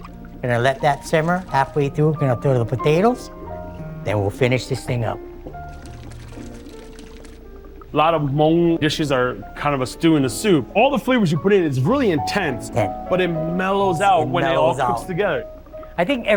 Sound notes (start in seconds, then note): 6.2 broth boiling; 6.2 soft thoughtful music